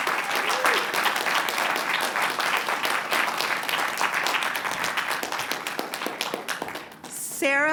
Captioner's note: applause